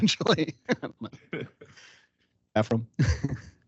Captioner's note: laughing